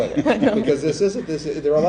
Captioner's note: all laughing